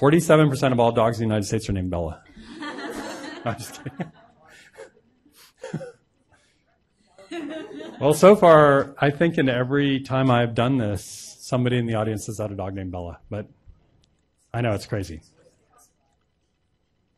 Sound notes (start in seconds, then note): 2.4 audience laughing; 4.9 laughs